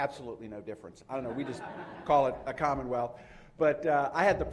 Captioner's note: laughter